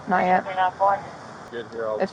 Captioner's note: radio chatter